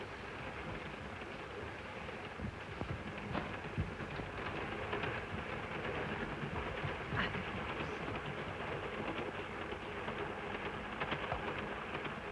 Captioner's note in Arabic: صوت خشخشة القطار